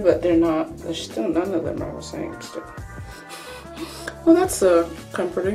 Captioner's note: laughs through the nose